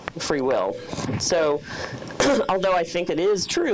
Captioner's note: coughs